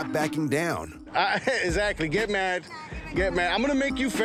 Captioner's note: laughing